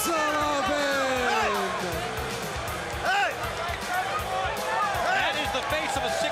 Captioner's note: crowd chatter